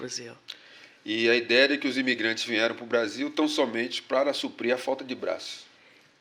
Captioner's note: speaking portuguese